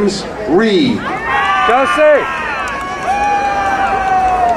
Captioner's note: crowd cheering